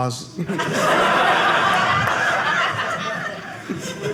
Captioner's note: audience laughing